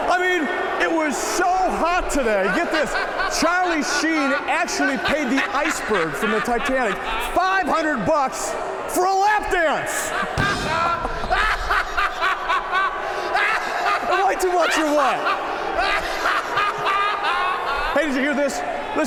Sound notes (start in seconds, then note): 9.9 Eric chuckling; 10.3 drums rimshot